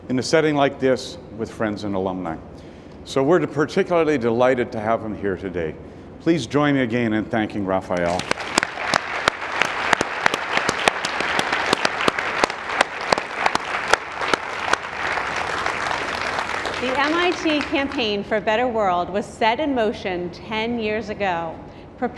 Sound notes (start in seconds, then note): 8.0 applauding; 8.0 audience applauding